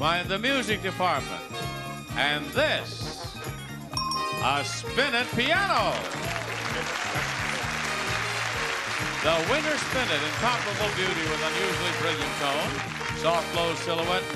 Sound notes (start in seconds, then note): 3.9 bell dings